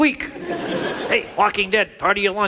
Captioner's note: audience laughs